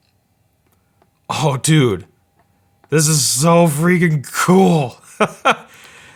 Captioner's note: laughs